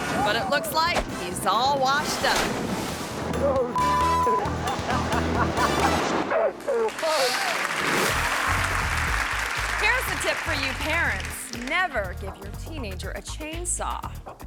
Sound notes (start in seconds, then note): 3.7 beep; 4.2 friend laughing; 6.5 audience clapping